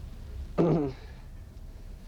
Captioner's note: clears throat